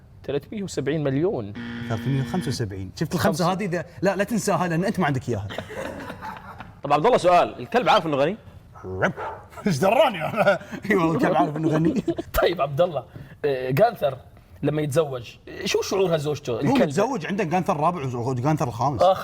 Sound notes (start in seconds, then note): 5.5 laughs; 9.1 barks